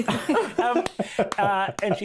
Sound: cast laughing

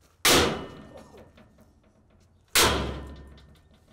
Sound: loud hammering

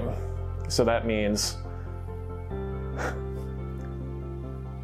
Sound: exhales

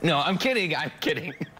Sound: laughter

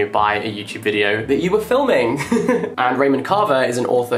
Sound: laughs

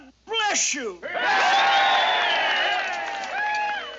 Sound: crowd cheering

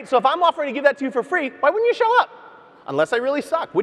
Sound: none

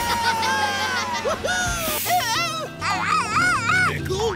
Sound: laughing; screaming like a monkey

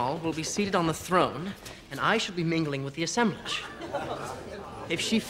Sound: guests laughing

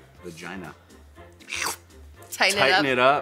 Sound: schlurp

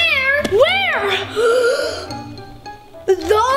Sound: gasps

